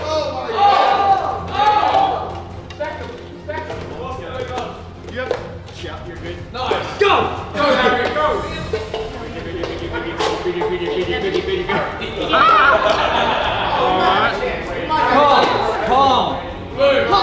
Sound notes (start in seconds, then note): 13.1 laughing